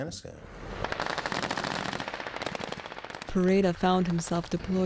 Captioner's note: guns firing